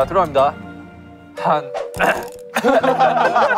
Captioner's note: ahem